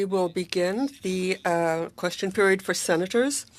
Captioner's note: speaking French